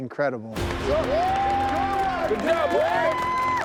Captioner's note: all cheering